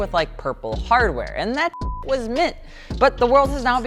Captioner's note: beep